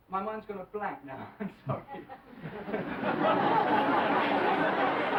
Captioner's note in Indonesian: Tertawa